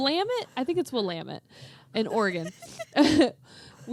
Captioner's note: laughs